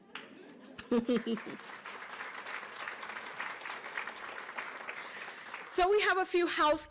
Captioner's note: applause